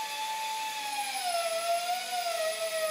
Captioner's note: machine whirring